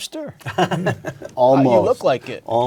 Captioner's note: laugh